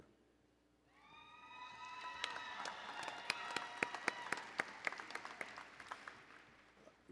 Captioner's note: applause and Cheering